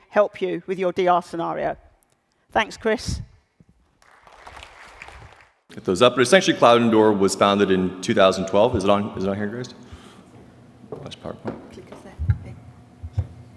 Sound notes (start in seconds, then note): 4.0 applause